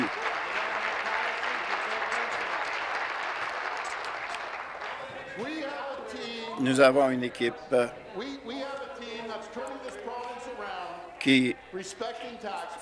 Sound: applause

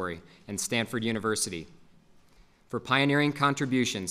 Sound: none

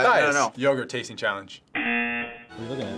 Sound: buzzer

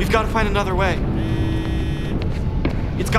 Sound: phone ringing

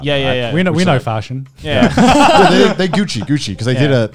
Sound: men laughing

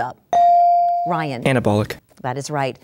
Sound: dinging

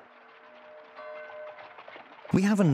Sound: bell tolls

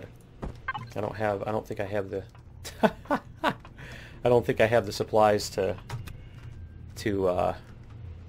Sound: laughs

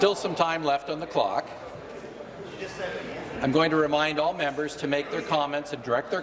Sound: conversation din

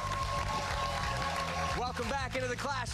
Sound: cheers and applause

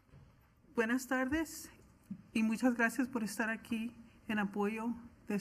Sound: foreign language

